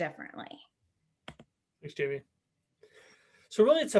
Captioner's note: keyboard key tapping